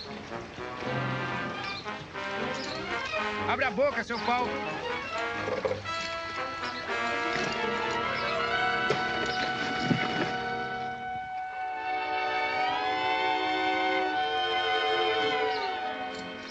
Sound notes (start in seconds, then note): 0.0 worrying music; 8.6 thud; 11.8 joke worrying music